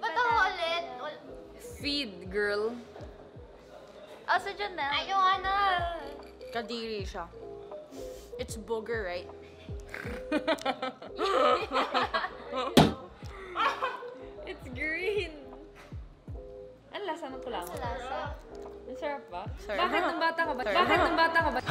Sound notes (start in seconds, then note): 9.7 laughing